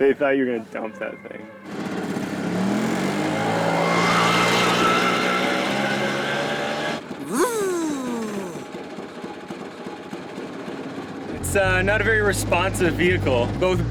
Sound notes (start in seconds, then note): 7.2 imitating engine